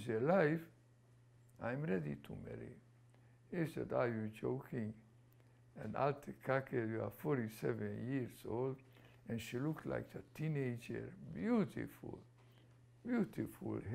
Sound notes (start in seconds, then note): 6.7 non-english